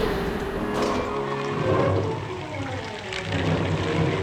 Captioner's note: siren blaring; thunder rumbling